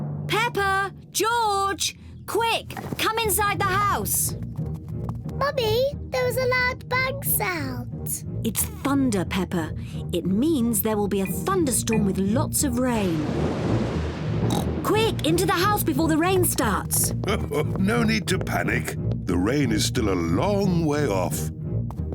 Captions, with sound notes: Peppa! George! Quick, come inside the house! Mummy, there was a loud bang sound. It's thunder, Peppa. It means there will be a thunderstorm -with lots of rain. -(THUNDER RUMBLES) (OINKS) Quick, into the house before the rain starts! (CHUCKLES) No need to panic. The rain is still a long way off.